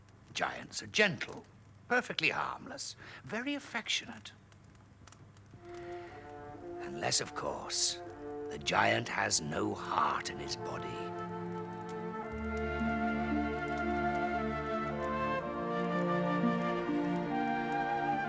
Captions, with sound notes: GIANTS ARE GENTLE, PERFECTLY HARMLESS, VERY AFFECTIONATE. UNLESS, OF COURSE, THE GIANT HAS NO HEART IN HIS BODY. [crackling]